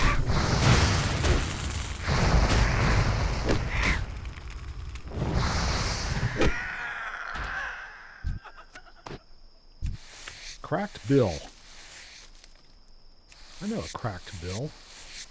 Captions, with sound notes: (gunshot) Cracked Bill. I know a cracked Bill.